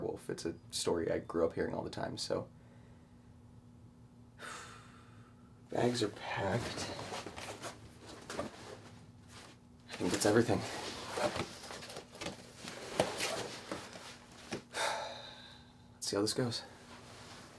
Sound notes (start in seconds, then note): 4.4 Suspirando; 14.7 Suspirando